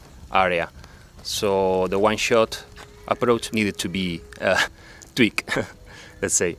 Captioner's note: laughs